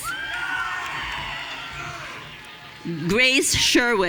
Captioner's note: audience cheering